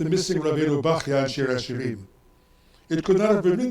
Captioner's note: speaks in foreign language